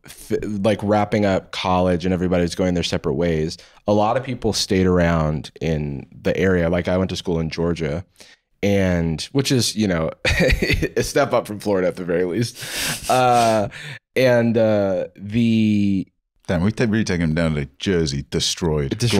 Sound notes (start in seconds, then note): 10.3 laughs